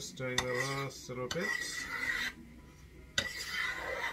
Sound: scraping

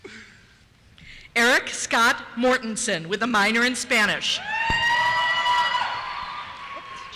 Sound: cheers

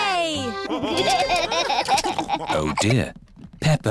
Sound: laughter

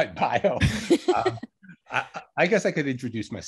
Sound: laughing

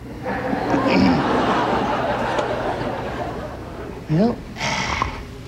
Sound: crowd laughing; clearing throat

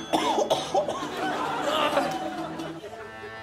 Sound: coughs

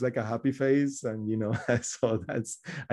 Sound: laughs

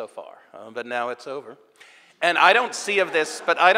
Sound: audience laughing

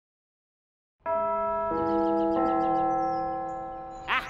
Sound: bells

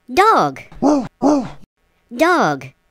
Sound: ruff ruff

